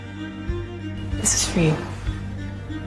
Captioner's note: voiceover